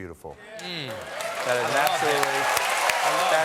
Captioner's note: applause